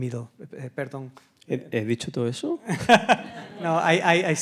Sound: speaking in Spanish; laughs; audience laughs

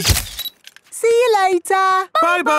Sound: camera click

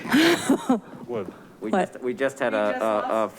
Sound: clerk chuckles

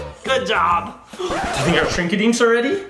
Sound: record scratching

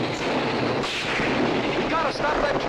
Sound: guns firing

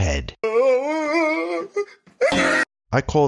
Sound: man sobbing

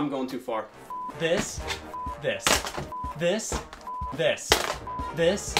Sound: beep

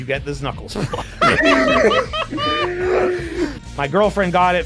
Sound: laughter

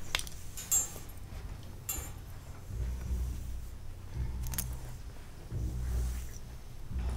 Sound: object clanking; tense ominous music

